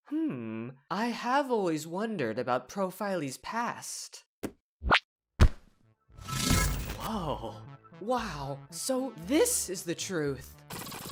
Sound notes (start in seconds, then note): none